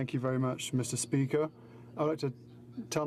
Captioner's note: speaking in french